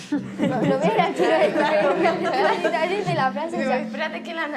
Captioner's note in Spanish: risas